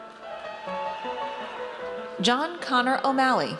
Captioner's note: audience cheers